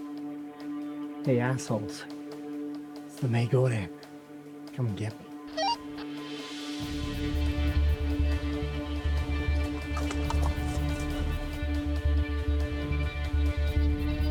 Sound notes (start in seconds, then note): 5.6 radio squelch; 7.4 tense music